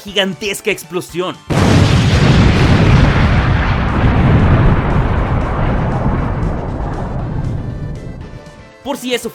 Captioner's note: explosion